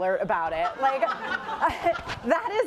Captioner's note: laughter